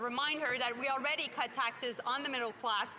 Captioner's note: speaking French